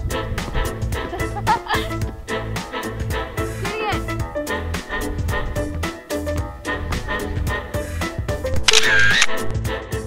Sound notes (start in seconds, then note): 3.3 laughing; 5.9 camera shutter click